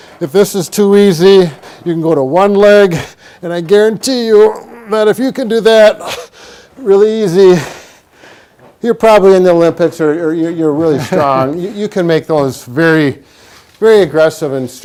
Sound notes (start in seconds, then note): 10.7 laughs